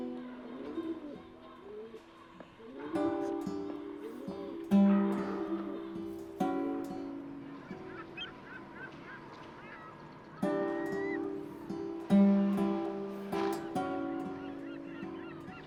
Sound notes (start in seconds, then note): 7.8 birds chirping; 7.8 gentle classical music